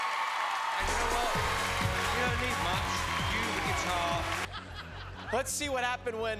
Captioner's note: cheers and applause